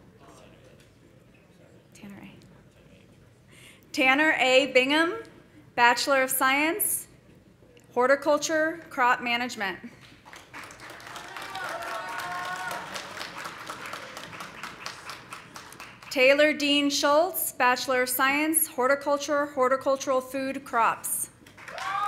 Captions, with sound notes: (people chattering) Tanner A. Bingham, Bachelor of Science, Horticulture, Crop Management. (audience applauding) (audience cheering) Taylor Dean Schultz, Bachelor of Science, Horticulture, Horticultural Food Crops.